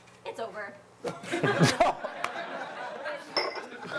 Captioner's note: laughter